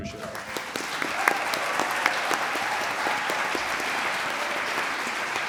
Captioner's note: audience applauds